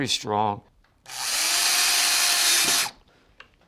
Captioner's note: drilling